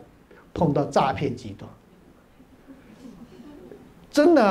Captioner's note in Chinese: 哈哈哈